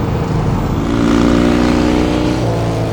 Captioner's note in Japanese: 車の音